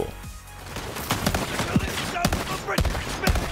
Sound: gun banging

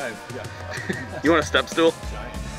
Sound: voiceover

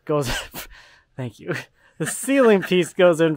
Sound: laughs

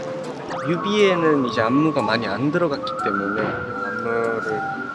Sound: whistling at the back

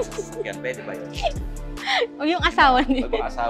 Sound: laughs

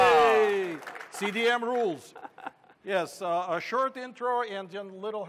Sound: cheers

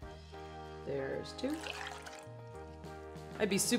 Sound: water pouring

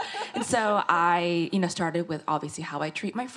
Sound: laughing

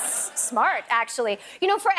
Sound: laughter

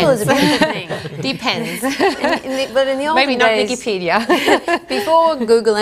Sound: all laugh

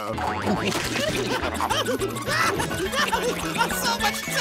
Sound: screaming

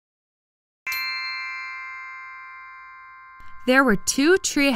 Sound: bells chime

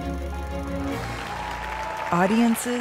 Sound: audience cheering

